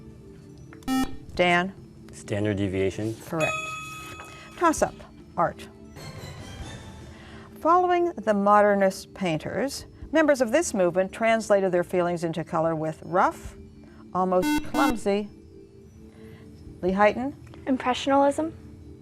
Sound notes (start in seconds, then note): 0.8 buzzer; 14.4 buzzer